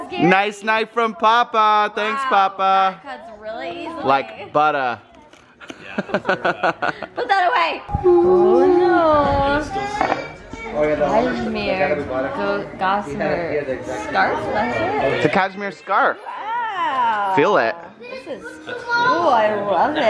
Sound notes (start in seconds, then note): 5.6 laughs